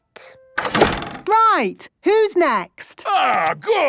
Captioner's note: doors slamming